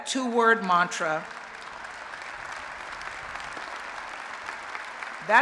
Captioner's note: applause